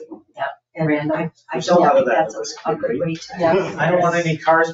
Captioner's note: people chattering